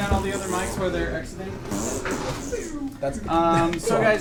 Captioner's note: fart noises in background